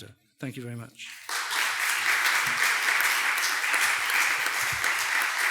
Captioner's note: audience applauding